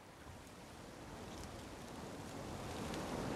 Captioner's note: wind blowing